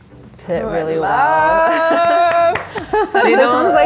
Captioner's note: claps and laughs